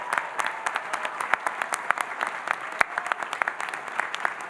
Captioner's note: audience applauding